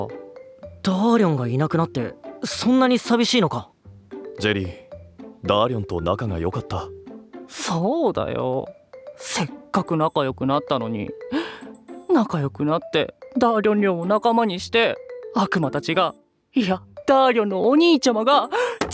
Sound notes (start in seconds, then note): 0.9 surprised; 7.3 sighing wistfully